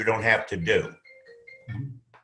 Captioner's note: phone rings